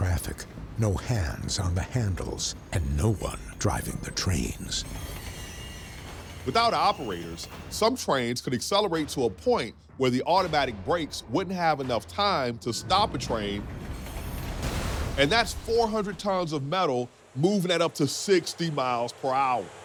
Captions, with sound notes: no hands on the handles, and no one driving the trains. [wheels screeching] - Without operators, some trains could accelerate to a point where the automatic brakes wouldn't have enough time to stop a train, and that's 400 tons of metal moving at up to 60 miles per hour.